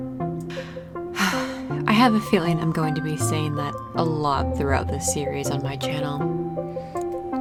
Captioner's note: sigh